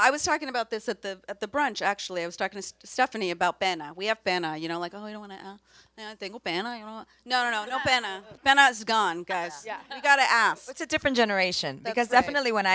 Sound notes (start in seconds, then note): 3.3 speaks Spanish word